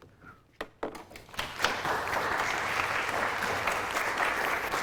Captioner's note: applause